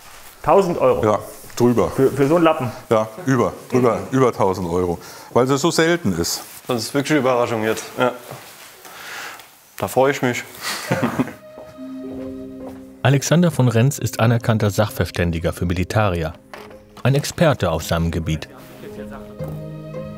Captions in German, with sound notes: 1.000 Euro? - Ja. Drüber. Für so einen Lappen? - Ja. Über 1.000 Euro. Weil sie so selten ist. - Das ist eine Überraschung jetzt. (lachend:) Da freu ich mich. (Neugierige Musik) Alexander von Renz ist anerkannter Sachverständiger für Militaria, ein Experte auf seinem Gebiet. (Neugierige Musik)